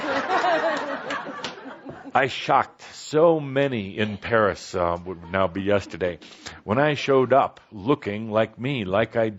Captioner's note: laughter